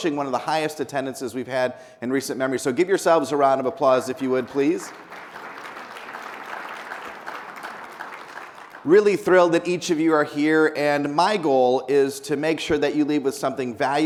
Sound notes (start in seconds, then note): 4.2 people applauding